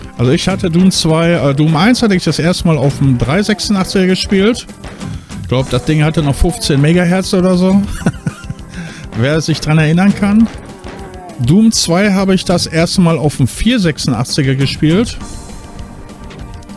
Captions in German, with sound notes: Also ich hatte Doom 2, Doom 1 hatte ich das erste Mal auf dem 386er gespielt. Glaub das Ding hatte noch 15 Mahz oder so, [gelächter] wer sich dran erinnern kann. Doom 2 habe ich das erste Mal auf dem 486er gespielt.